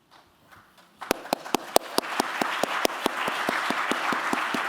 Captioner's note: applause